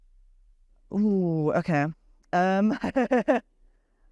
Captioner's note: laughs